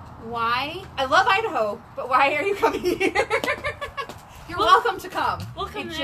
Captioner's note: laughs